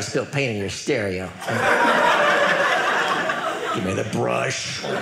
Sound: audience laughing

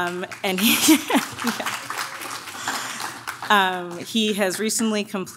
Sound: audience claps

